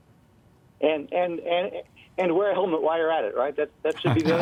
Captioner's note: voiceover